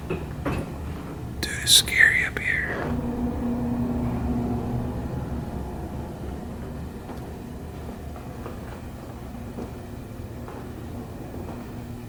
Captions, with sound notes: (WHISPERS) DUDE IT'S SCARY UP HERE